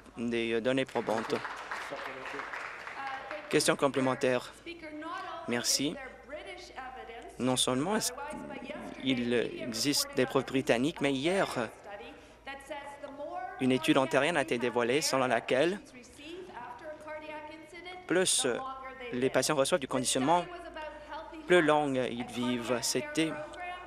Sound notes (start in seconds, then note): 4.4 applause